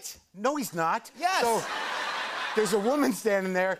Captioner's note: laughter